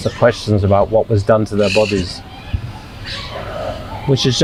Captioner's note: sighing